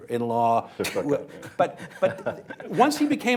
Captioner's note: laughter